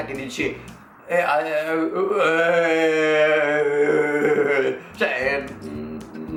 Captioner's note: undefined sound of amazement